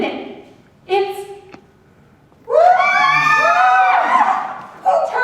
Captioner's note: ORCHESTRA gasps and screams in horror and music falls apart